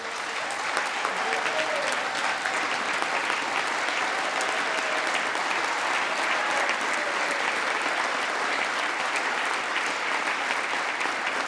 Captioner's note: applause